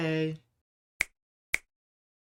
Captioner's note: snaps fingers